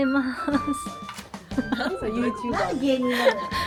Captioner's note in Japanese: 笑い